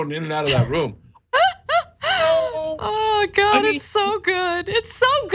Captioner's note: laugh